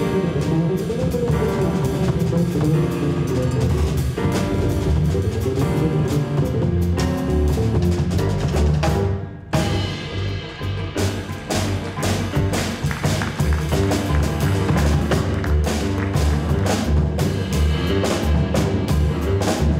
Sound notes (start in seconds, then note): 12.1 audience applauding; 16.6 dynamic jazz music